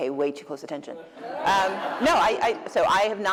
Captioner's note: laughter